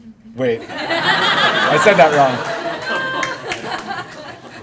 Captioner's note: laughter